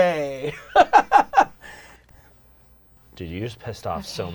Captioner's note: laughing